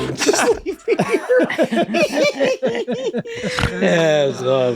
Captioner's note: all laughing loudly